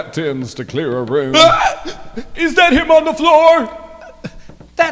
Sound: screams

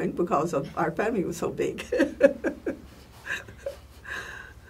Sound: laugh

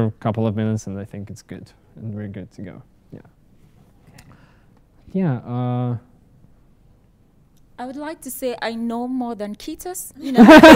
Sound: laugher

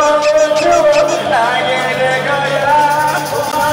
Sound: tiger is roaring

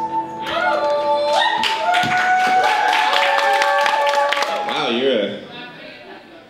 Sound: applause, cheering

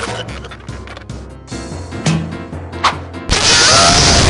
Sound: none

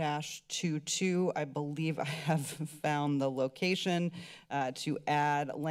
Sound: giggle

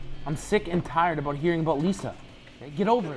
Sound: none

